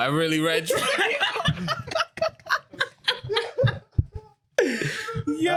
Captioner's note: laughing